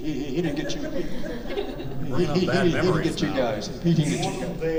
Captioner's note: audience laughing